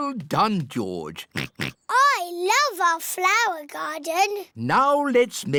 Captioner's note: oinks